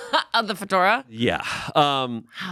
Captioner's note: laughs